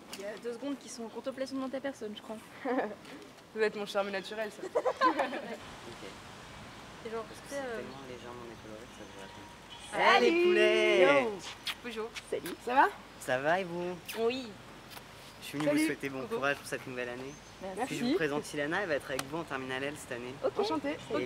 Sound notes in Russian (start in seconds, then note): 4.6 смех; 7.0 тихий разговор